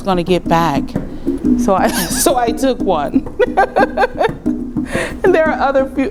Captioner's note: laughs